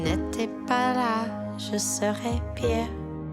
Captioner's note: none